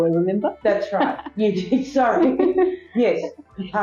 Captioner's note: laugh